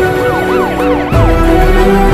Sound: siren wailing

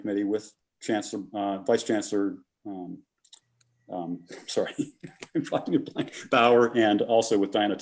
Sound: laughter

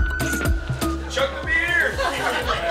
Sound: crowd laughs; male Voice

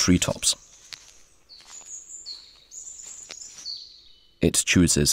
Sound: sounds of nature

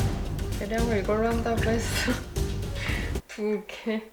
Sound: laugh

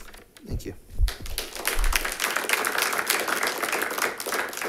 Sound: audience applauds

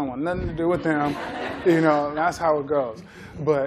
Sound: laughter

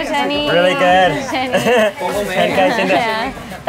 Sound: laughs

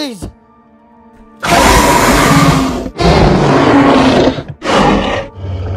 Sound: dinosaur roars

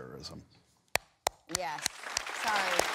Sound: claps

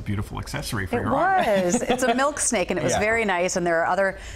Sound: laughter

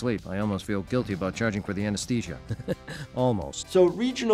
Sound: chuckles

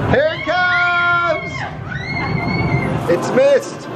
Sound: kids screaming

